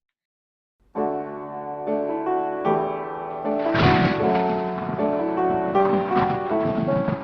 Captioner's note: gentle piano music; lightning crashes